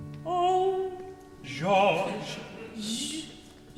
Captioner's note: audience chuckling